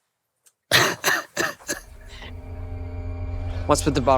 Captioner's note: crying